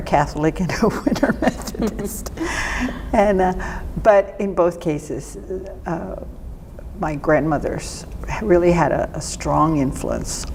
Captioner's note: laughter